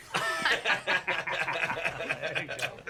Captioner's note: laughter